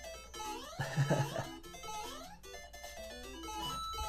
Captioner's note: laughs